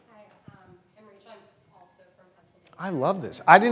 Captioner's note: voice muffled